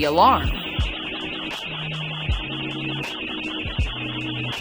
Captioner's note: alarm ringing